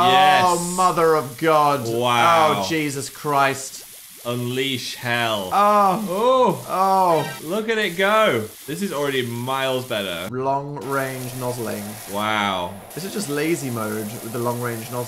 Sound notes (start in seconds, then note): 5.6 moaning